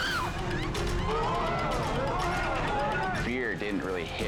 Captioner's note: people exclaiming